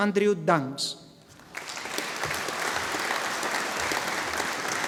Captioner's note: audience applauding